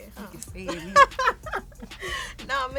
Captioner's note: both laugh